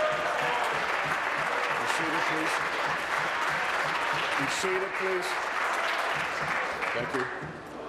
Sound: applause

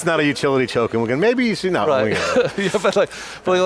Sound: laughs

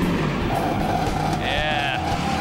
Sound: hot rod engine

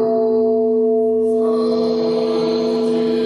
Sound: ringing of bell

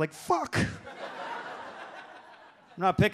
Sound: audience laughs

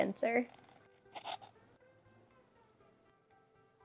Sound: cups scraping

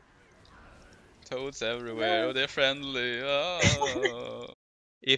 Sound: haha

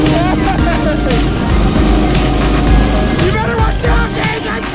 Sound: motors roaring

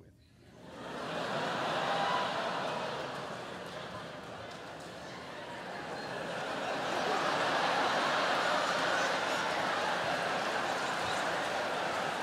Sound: laughter

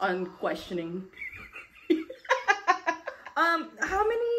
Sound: laughter

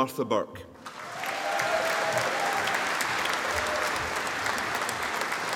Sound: audience applauding

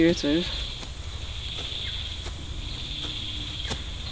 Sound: birds chirping

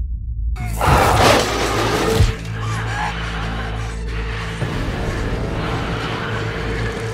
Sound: objects clanging; Sandra gasps; dramatic music

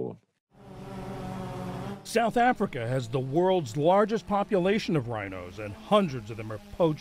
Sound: voice-over

